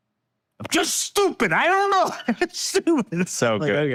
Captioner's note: laugh